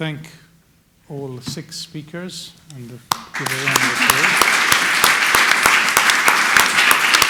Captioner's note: audience applauding